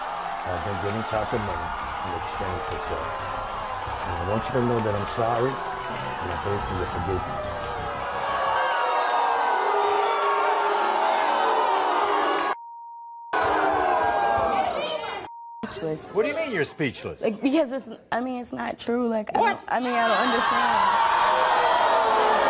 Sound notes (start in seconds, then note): 8.4 audience yells and boos